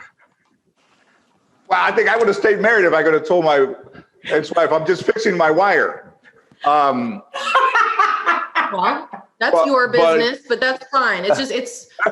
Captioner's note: laughter